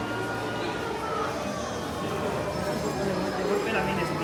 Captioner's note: guests' chatter echoes